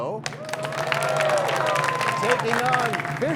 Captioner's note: cheers and applause